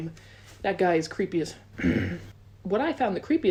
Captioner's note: grunts